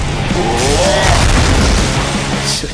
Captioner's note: grunt; zap